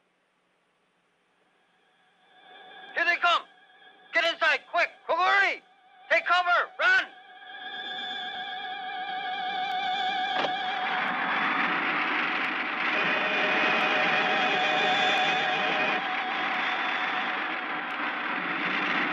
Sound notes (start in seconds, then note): 7.2 high-pitched humming; 13.5 laser blasting